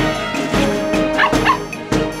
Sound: barking

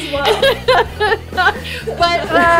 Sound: laughs loudly

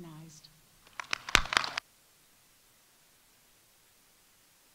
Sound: audience applauding

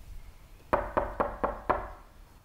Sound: door knocking sound

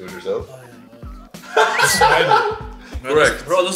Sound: laughing

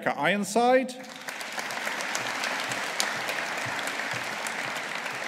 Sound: audience applauding

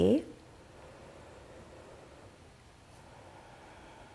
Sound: inhaling deeply

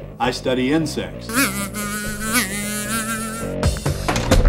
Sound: sound of insect buzzing

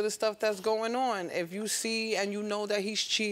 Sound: none

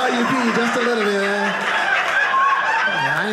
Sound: audience laughing

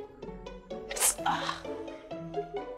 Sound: fake scorching sound

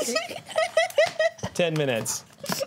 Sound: laughter

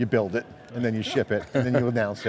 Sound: laughs

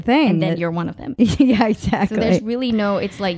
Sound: laughing

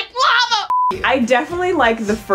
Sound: beeping sound

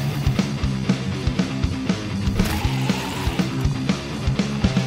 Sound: zombies growling; metal music continues

